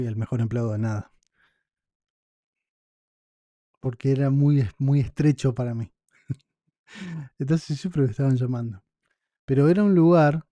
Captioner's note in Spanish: risas